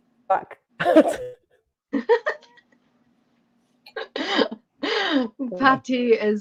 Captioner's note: laughter